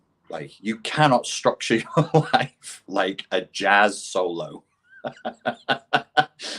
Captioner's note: laughs